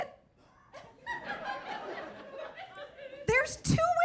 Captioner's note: audience laughing